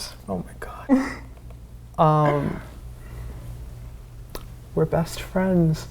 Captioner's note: awkward laughing